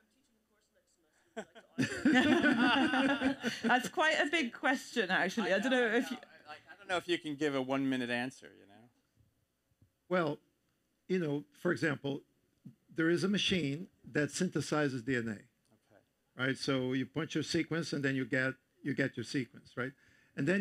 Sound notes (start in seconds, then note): 1.4 all laugh